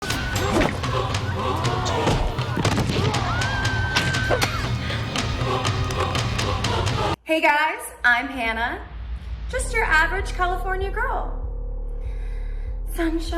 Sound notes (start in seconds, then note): 3.7 yells; 4.6 thud